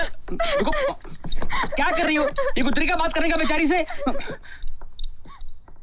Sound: crying

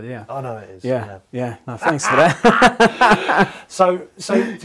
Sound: laughing

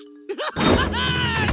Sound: laughing

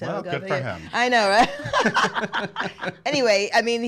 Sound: laughing

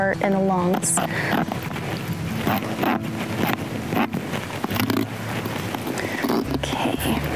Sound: bone saw

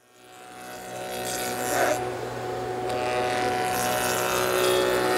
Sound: machine operating

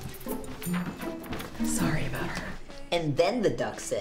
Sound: whispered

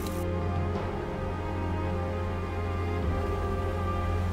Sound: brooding music; wind howling

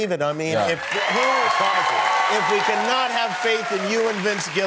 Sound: cheers and applause

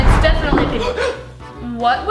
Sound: both gasp

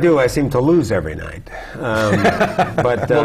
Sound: laugh

